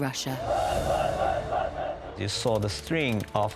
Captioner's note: soldiers chanting